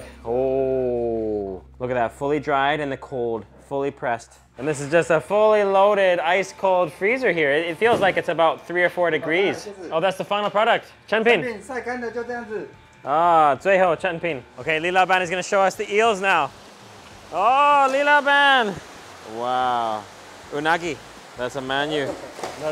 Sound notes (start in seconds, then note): 9.5 speaker speaks in foreign language; 11.0 speaks in foreign language; 11.7 speaker speaks in foreign language; 12.9 speaks in foreign language